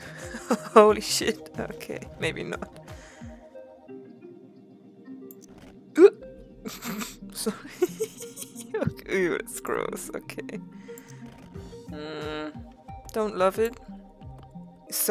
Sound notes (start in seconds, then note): 0.0 giggles; 6.0 snorts; 6.6 giggles